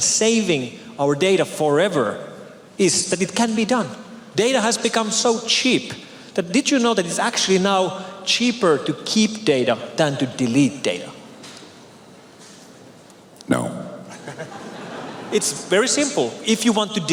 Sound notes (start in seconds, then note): 14.3 cheers